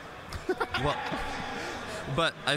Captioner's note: laughing